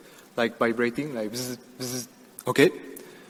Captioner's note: imitated buzzing